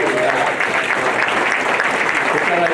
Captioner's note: applause